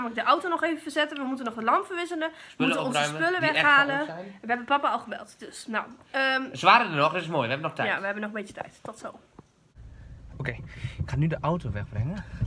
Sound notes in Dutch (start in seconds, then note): none